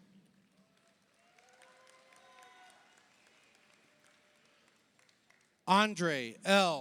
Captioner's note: audience cheers; audience applauds